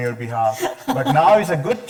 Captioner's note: chuckling